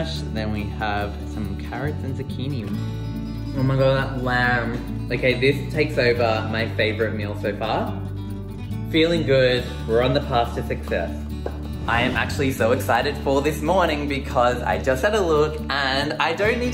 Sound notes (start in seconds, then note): 9.0 voiceover